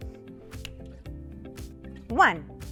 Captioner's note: fingers snapping